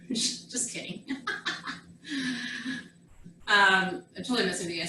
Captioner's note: laughs